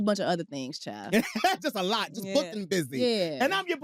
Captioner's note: laughs